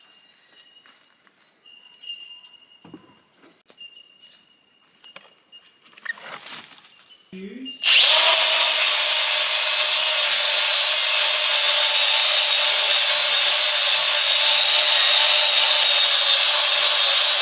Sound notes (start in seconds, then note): 0.2 light footsteps; 5.8 footsteps and rusting; 7.8 grinder surges